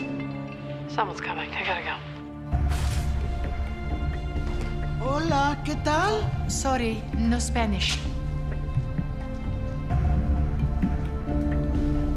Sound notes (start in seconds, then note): 4.9 speaking Spanish; 6.2 Russian accent